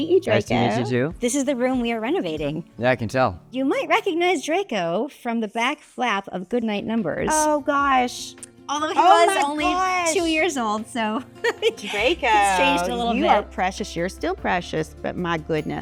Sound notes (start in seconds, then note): 11.2 chuckles